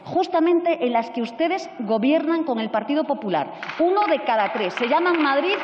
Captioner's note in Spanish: Aplausos